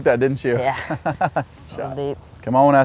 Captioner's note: laughs